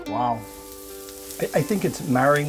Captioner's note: sizzling